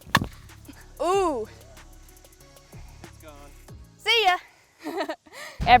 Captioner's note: laughs